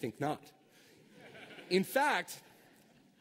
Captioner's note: laughter